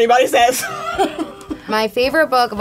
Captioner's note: laughs